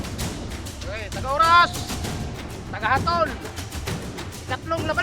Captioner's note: referee speaks in Tagalog